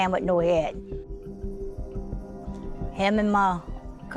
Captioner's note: crickets chirping